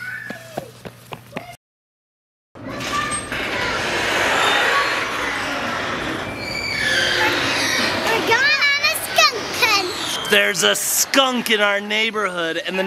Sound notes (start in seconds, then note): 0.0 child screaming; 2.6 squeaky garage door opening